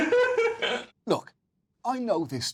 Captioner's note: chuckles